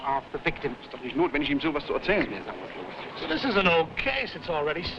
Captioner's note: officers speaking foreign language